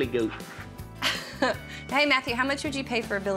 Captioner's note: laughs